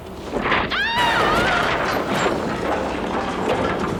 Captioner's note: Cathy yelping